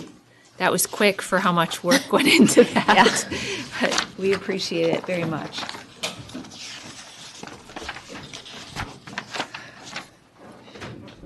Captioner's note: laughter